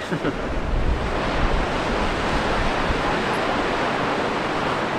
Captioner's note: sound of the sea